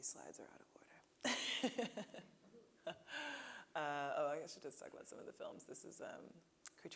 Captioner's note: laughing